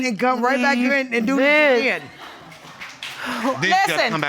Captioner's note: audience applauds